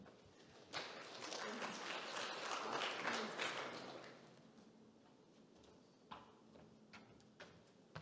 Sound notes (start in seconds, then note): 0.5 audience clapping